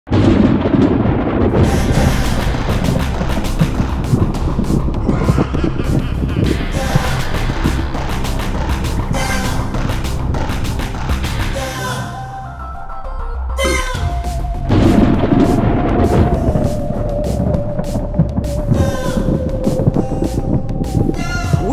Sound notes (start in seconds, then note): 0.1 thunder; 5.0 evil laughter; 5.3 thunder; 14.1 thunder